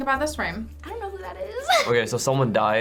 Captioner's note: chuckles